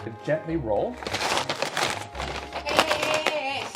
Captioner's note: paper crumpling